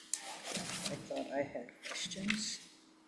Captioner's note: papers rustling